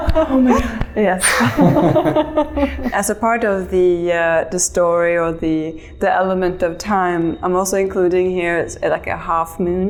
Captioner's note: laughter